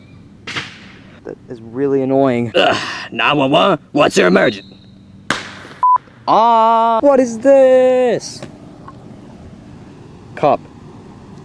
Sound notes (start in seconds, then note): 5.3 firework exploding